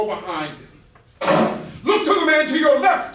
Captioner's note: door slam